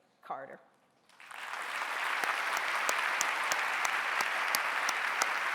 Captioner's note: audience applauding